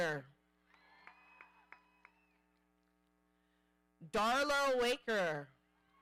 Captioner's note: audience applauding